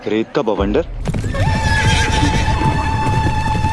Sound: horses neighing

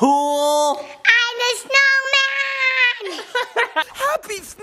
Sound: laugh

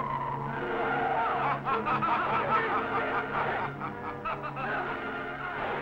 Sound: Starman laughing

